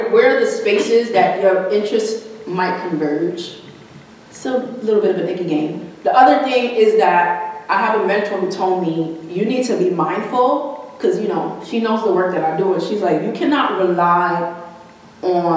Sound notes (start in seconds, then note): none